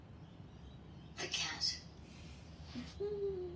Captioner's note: giggles